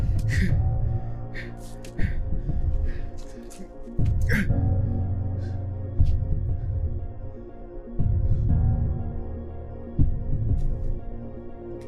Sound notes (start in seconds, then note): 0.1 rough breathing; 3.4 struggling breaths